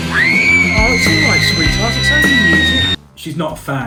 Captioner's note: screaming